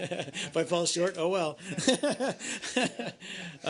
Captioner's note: laughter